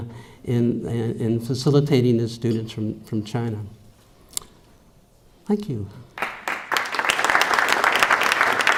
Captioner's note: applause